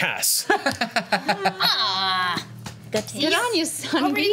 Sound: laughs

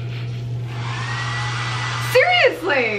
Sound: blow dryer turning on

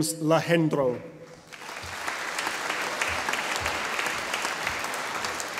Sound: audience applauding

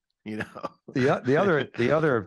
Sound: chuckles

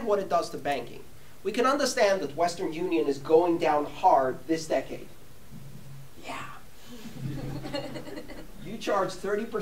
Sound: laughter

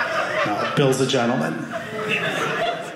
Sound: audience laughing

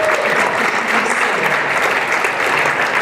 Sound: applause

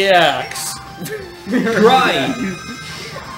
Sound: laughs

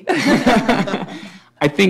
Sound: laughter

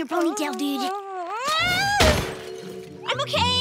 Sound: groaning

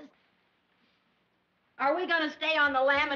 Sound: none

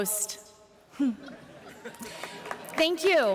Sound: laughter

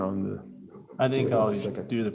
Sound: whispering

